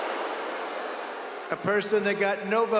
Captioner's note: cheering